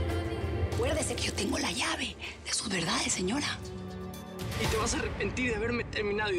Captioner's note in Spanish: none